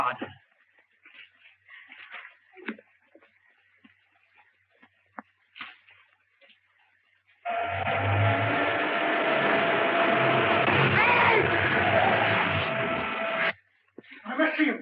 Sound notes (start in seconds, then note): 7.4 engine revving; 7.4 tires screeching